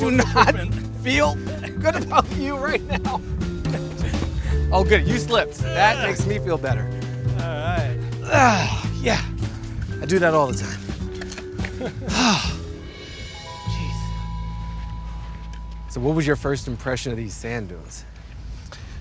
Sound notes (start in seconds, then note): 11.6 laughing; 12.8 sighs